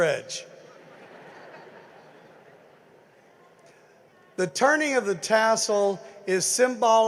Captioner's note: laughter